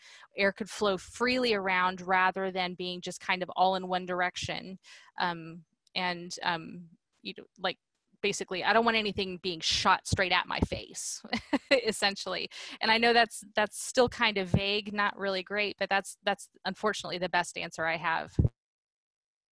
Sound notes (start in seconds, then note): 11.3 laughter